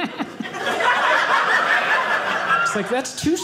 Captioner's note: audience laughing